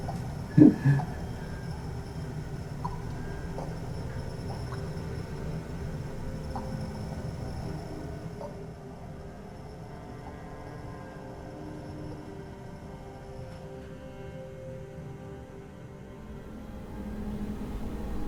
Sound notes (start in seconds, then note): 2.4 dark music; 2.7 water drips